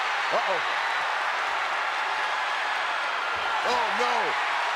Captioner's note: audience cheers